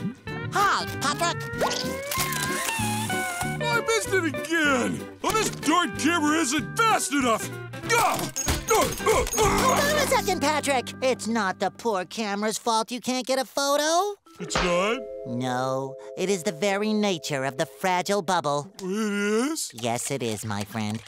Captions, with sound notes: Hi, Patrick. I missed it again. This darn camera isn't fast enough. [grunting] Hold on a second, Patrick. It's not the poor camera's fault you can't get a photo. It's not? No, it is the very nature of the fragile bubble. It is? Yes, it is, my friend.